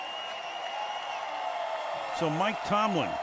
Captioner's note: cheering